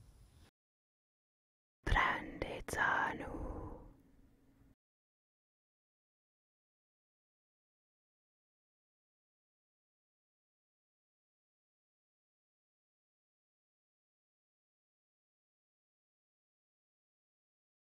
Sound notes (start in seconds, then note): 1.8 whispering in Madovna